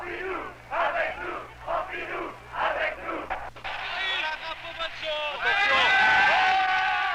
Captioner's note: pro-government chants